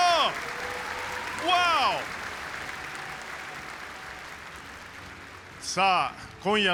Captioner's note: applause